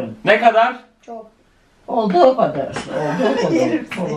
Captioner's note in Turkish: gülüşmeler